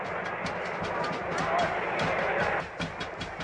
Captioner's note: people chattering; drum beating